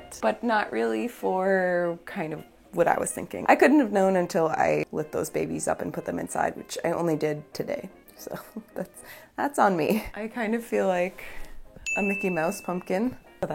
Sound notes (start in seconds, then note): 8.3 laughing